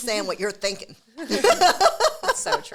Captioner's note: both laugh